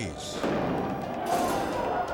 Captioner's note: grenade bangs